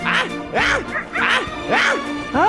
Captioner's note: wolf leader roar